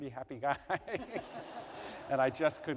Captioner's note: laughter